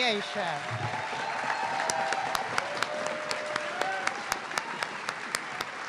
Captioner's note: audience clapping and cheering